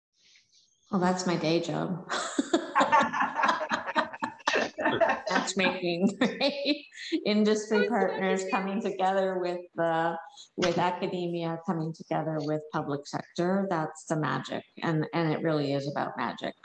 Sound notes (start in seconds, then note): 2.4 group laughing; 6.2 chuckles